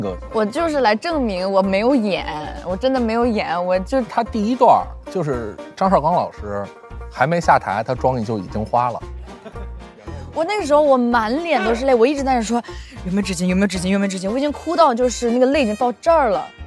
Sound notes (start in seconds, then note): 11.4 laughed till cried